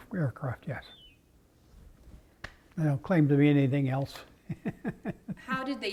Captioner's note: laugh